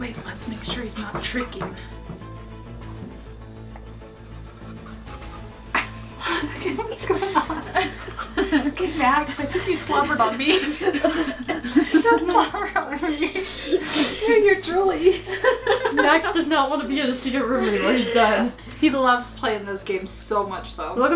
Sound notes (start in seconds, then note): 15.4 laughing